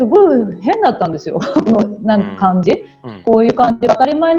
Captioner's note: laugh